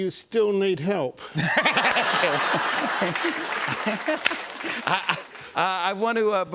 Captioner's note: laughter